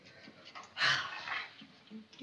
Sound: sighing

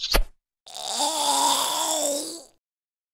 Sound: gargling

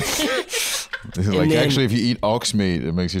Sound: laughing

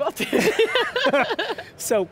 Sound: laughing

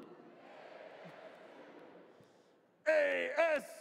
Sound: audience responds

